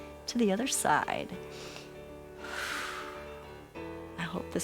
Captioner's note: inhales and exhales